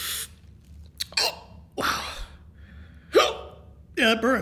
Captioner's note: hiccups; hiccups